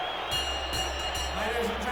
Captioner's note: bell rings